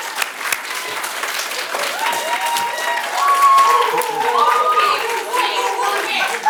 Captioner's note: audience Applause